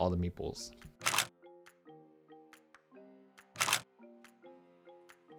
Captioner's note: camera clicks